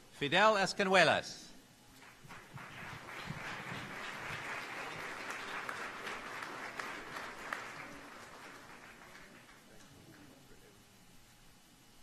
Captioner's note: applause